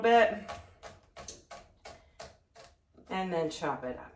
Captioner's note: chopping garlic